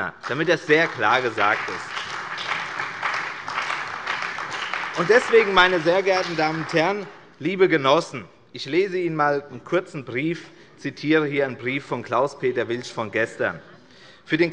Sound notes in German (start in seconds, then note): 2.2 Beifall bei der CDU und dem BÜNDNIS 90/DIE GRÜNEN